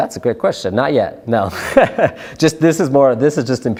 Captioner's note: laughs